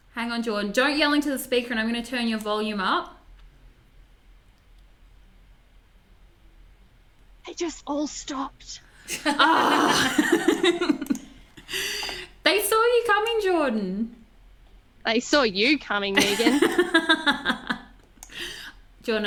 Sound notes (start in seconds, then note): 9.0 laugh; 16.1 laughs